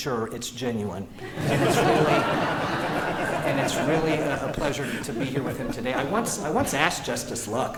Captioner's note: laughter